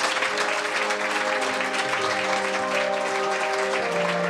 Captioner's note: applause